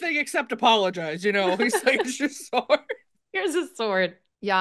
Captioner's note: laughs